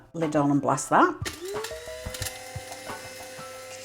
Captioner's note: coffee grinder whirring